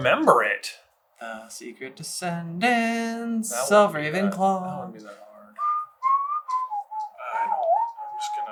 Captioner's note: whistles